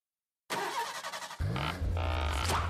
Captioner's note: engine starting